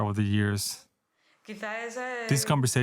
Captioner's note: speaking Spanish